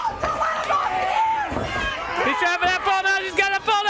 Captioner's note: crowd chatter